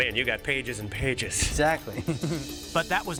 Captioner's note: chuckles